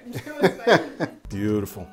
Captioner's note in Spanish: se ríe